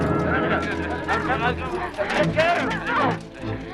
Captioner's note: guards clamoring